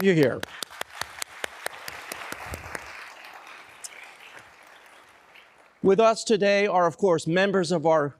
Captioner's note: applause